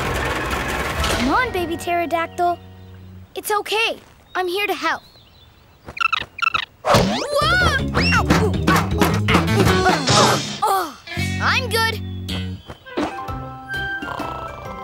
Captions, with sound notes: Come on, baby Pterodactyl. It's okay. I'm here to help. [chirping] Whoa! [grunting] I'm good. [snoring]